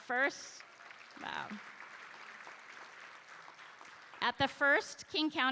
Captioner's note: applause